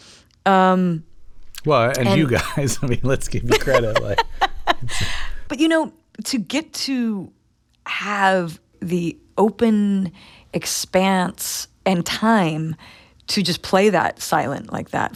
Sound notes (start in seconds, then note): 1.8 laughter